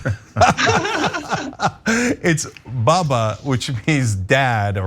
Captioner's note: laugh